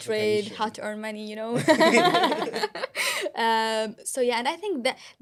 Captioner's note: laughter